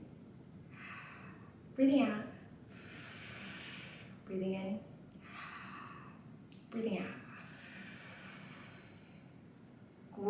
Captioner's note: inhale and exhale